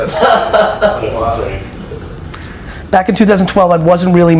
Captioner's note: laughs